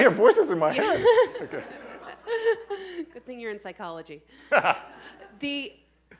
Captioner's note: laughing